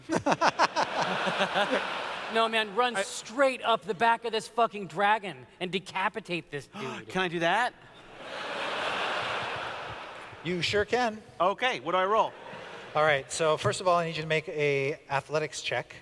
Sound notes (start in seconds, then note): 0.0 laughter; 6.8 gasps